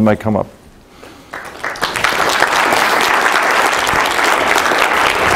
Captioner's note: applause